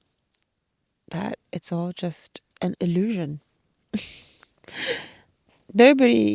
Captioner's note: chuckles